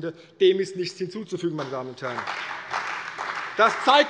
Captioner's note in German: Beifall bei der CDU und dem BÜNDNIS 90/DIE GRÜNEN